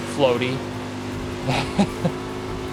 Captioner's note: laughs